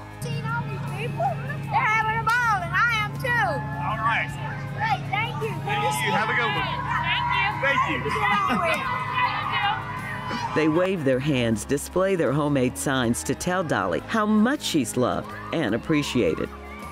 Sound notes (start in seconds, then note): 8.6 indistinct chatter